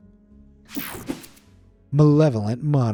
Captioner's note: screen whooshing